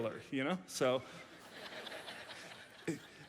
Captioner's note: audience laughs